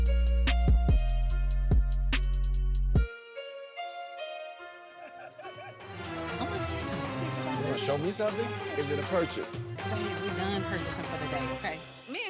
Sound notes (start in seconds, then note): 0.3 gentle music; 5.0 rhythmic music; 5.8 people chattering